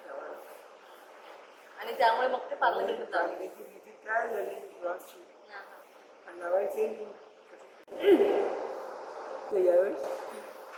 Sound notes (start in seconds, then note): 7.9 cough